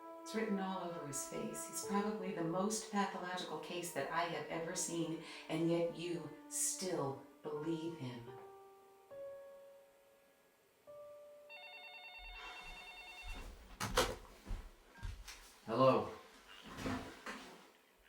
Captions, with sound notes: It's written all over his face. He's probably the most pathological case that I have ever seen and yet you still believe him. (phone ringing) - Hello?